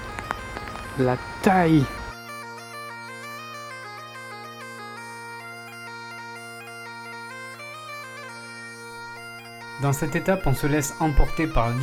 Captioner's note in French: Exclamation